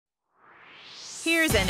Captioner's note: swoosh